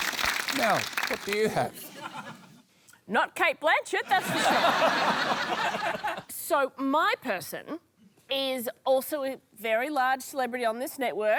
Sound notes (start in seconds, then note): 4.1 laughter